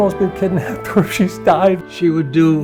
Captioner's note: laughs